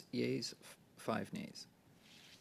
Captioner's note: speaking French